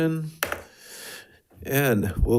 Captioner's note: gavel taps